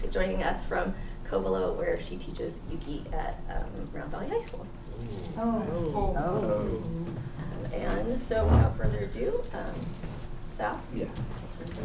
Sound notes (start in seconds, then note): 6.4 non-english